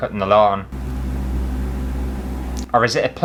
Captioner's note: rumbling Noises